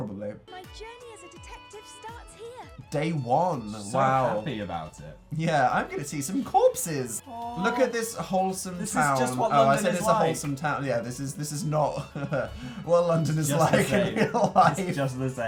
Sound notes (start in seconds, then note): 13.6 sarcastic chuckle